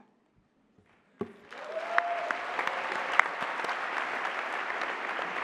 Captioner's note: applause